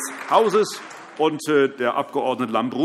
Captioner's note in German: Allgemeiner Beifall